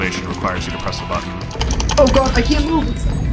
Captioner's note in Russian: яростный долбёж по клавишам